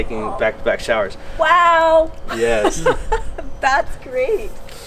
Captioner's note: laughs